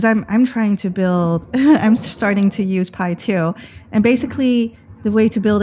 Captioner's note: laughter